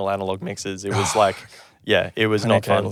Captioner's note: gasping